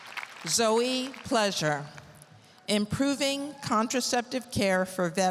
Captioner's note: applause